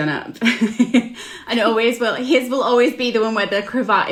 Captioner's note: laughs